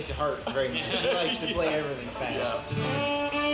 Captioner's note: laughs